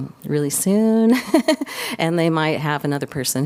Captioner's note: laughter